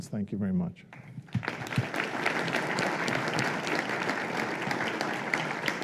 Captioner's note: applause